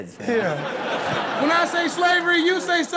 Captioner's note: all laughing